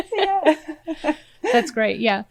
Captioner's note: laughs